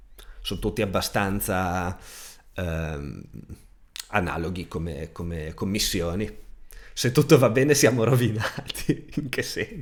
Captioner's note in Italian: risate